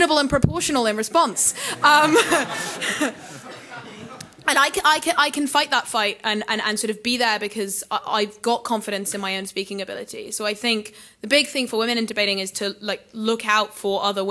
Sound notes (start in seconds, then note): 1.4 laughing